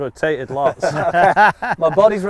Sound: everybody Laughs

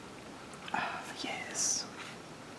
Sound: whispered

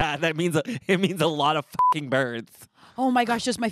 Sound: beep

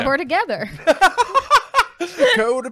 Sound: laughing

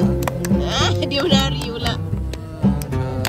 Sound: laugh

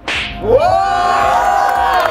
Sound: crowds cheering

